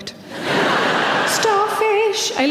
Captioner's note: audience laughs